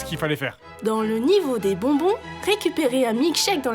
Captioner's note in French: Voix-Off